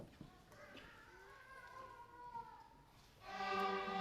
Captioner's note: baby crying; contemplative orchestral music